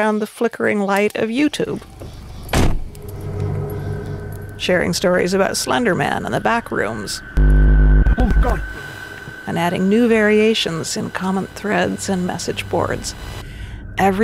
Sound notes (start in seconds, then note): 2.5 car door slamming; 7.4 TV static buzzes